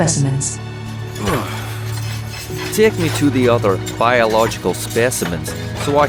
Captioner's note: grunts as he stands up